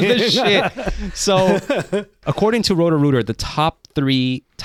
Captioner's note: laughing